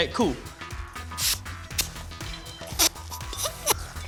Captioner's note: gas hisses; inhales